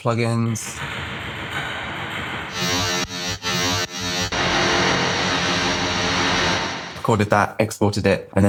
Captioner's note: variety of funky electronic sounds